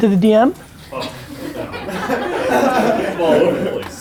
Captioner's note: group laughter